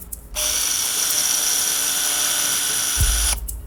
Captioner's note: drill whirring